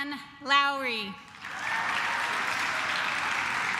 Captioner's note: claps